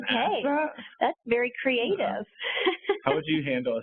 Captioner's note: laughs